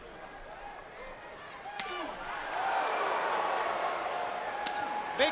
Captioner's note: crowd cheering